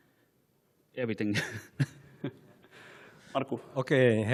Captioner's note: laughs